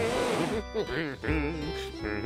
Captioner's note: humming